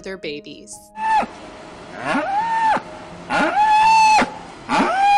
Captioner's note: cow bellowing